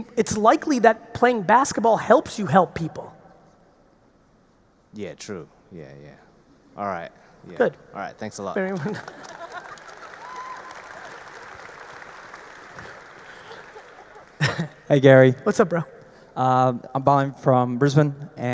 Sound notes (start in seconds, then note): 8.6 audience laughs and applauds; 9.8 laughs; 13.4 Gary laughs